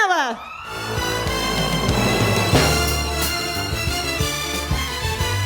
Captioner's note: applause